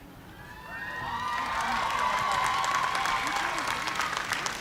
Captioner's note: cheers and applause